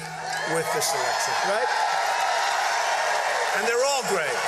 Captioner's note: cheers and applause